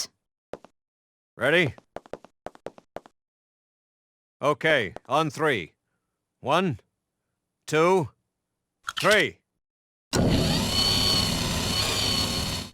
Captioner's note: secret door opening intensifies